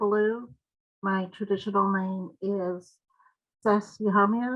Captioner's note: speaking in foreign language